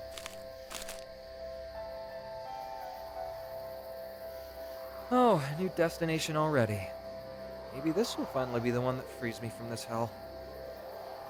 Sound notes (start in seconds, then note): none